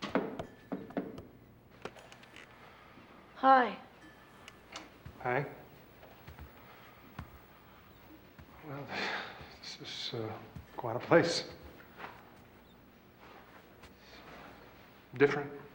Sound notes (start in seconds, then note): 8.7 sighs